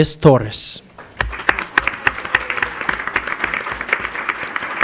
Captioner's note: crowd applauding